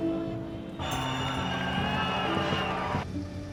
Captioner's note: horn honking; crowd cheering